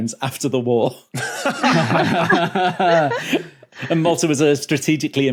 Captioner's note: group laughing